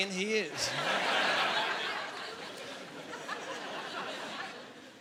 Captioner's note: laughing